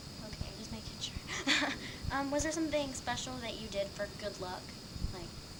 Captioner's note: chuckles